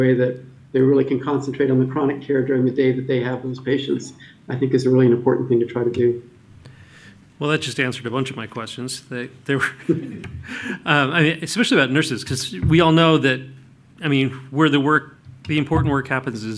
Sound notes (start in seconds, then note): 9.6 laughter